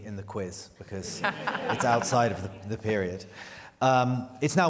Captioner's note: laughter